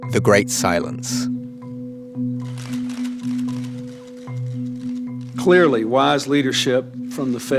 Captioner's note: soundbite of archived recording